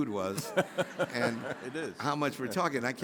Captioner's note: audience laughing; laughing